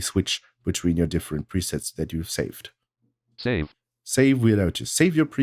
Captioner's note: automated voice